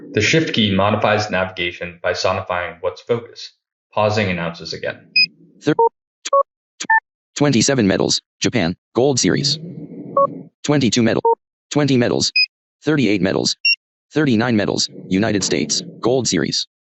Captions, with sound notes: The shift key modifies navigation by sonifying what's focused. Pausing announces again. [Audio tones] 27 medals, Japan Gold Series 22 medals. 20 medals. 38 medals. 39 medals, United States, Gold Series.